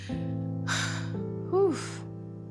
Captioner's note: sighs